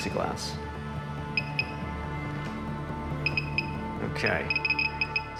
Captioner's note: beeping